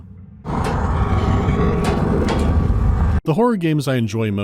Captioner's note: monstrous growling